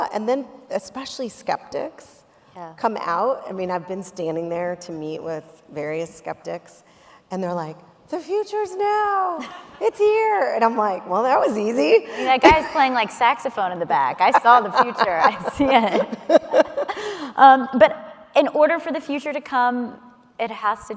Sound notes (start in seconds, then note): 11.9 laughs; 16.0 laughing